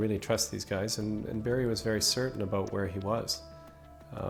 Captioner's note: voiceover